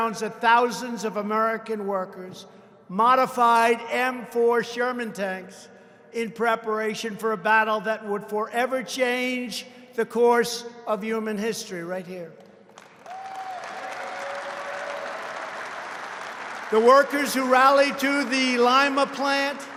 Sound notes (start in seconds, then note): 12.6 applause